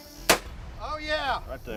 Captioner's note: gun fires